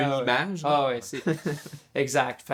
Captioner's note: laughs